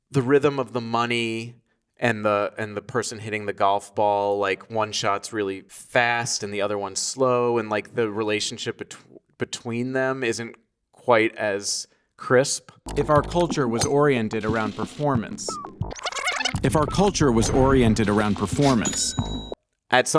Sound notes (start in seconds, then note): 12.8 keys clacking; 13.1 golf ball pinging; 16.6 keys clacking; 18.9 cash register dinging